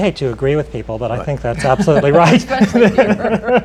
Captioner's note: laughter